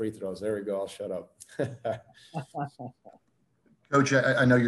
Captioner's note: laughter